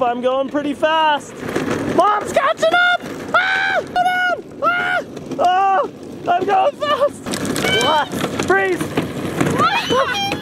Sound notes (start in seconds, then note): 3.3 screams